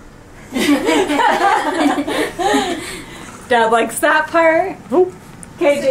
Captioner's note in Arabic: يضحك